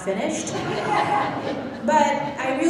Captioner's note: laughing